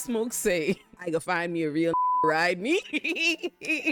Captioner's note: beep